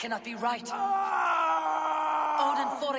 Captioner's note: scream